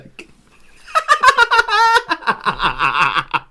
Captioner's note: hysterical Laughter